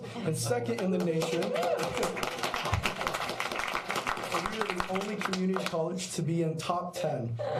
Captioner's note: applause